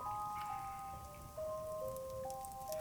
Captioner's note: none